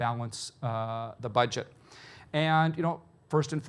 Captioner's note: none